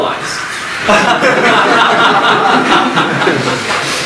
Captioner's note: audience laughs